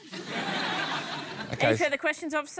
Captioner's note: laughter